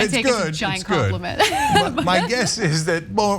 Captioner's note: laugh